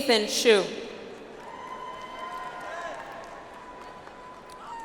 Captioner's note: audience applauds